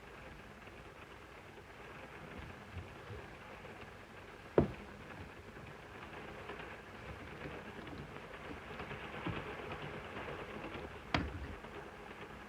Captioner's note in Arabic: صوت خشخشة القطار; يغلق الباب